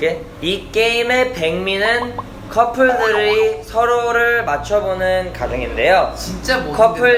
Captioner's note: reads in broken korean